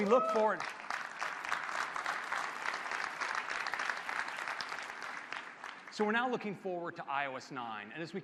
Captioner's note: applause